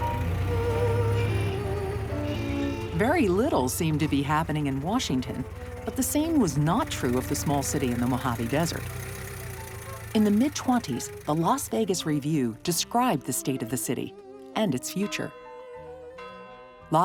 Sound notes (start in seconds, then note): 0.0 car horn honks